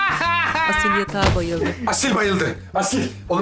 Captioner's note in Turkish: Devrilme sesi